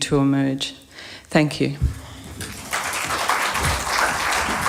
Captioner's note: applause